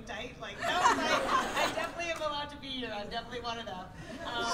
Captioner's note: laughter